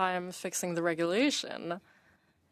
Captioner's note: speaking French